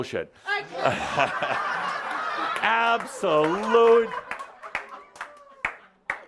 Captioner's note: laughter